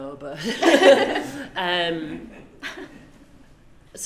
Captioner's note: both laugh